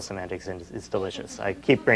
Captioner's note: laughter